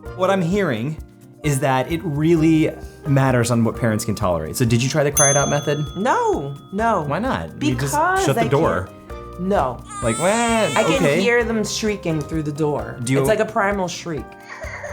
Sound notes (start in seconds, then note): 9.8 baby shrieking